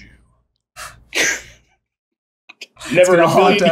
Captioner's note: laughter